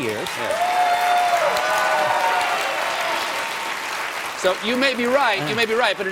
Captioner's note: applause